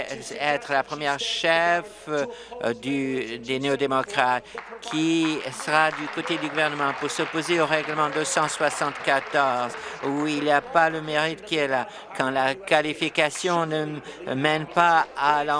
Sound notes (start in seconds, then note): 10.5 applause